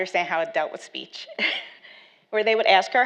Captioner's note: laughs